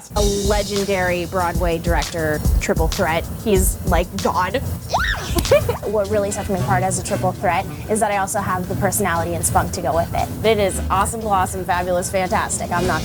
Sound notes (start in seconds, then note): 4.6 squeals